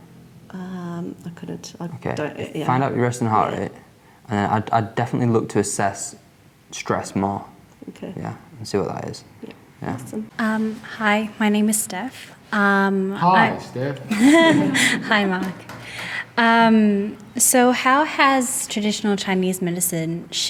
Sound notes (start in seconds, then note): 16.4 laughs